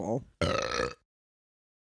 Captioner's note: large burp